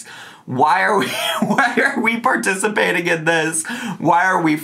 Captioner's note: laughs